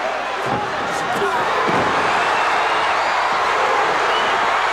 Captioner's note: crowd cheers